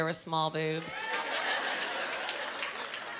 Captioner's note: clapping